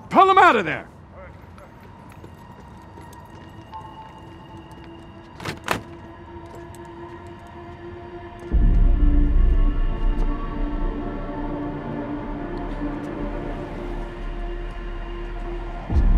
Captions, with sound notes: - Pull them outta there! - All right, go. (footsteps plod) (helicopter door clicks) (foreboding music continues)